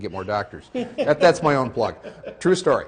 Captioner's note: laughing